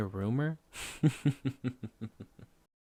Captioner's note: light chuckle